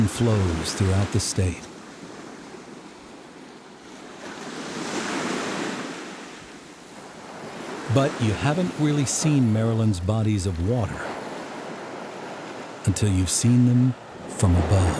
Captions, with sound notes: throughout the State. [Waves crashing] But you haven't really seen Maryland's bodies of water until you've seen them from above.